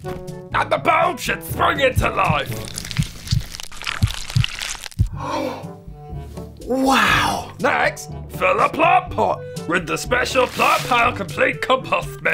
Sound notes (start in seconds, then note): 5.1 gasp